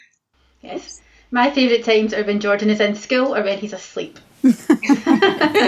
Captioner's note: laughter